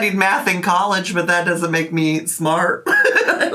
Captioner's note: giggles